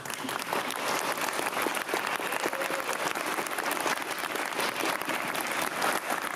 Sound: audience applauding and cheering

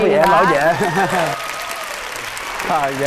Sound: audience applause

